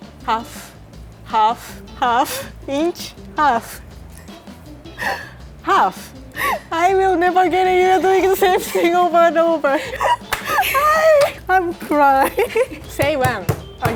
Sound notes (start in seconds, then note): 4.9 laughing; 10.1 slapping; 10.4 laughing